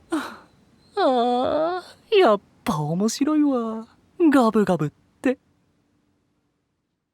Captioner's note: chuckles to himself